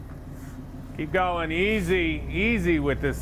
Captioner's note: none